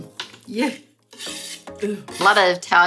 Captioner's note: metal scrapes